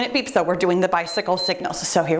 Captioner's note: timer beeps